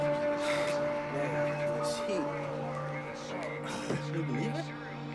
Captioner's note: sighs